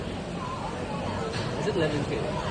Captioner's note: none